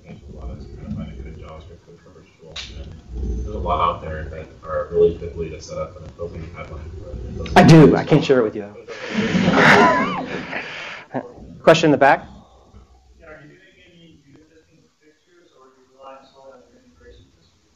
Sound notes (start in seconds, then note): 9.1 laughter